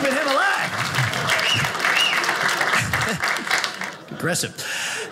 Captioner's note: audience cheers